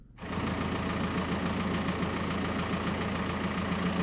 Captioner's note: engine humming